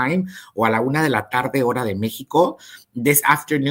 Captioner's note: speaks in Spanish